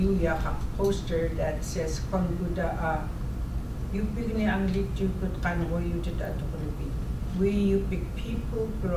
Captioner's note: speaking in Yup'ik